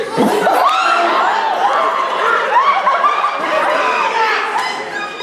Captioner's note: audience gasps